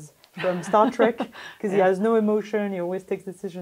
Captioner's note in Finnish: laughs